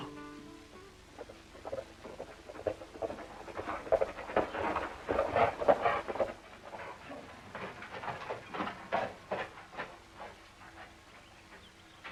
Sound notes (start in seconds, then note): 2.6 hooves clopping